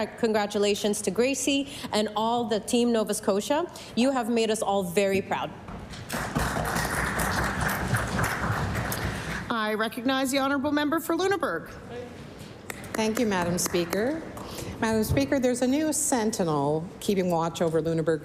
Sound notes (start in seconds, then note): 10.8 applause